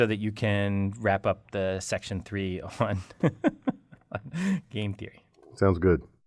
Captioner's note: laugh